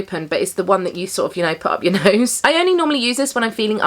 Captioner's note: chuckles